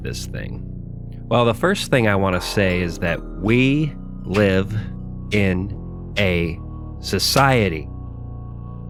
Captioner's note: clap